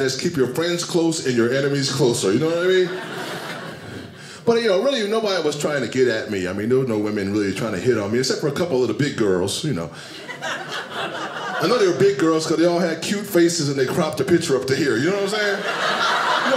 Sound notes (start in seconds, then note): 2.5 audience laughing; 10.0 audience laughing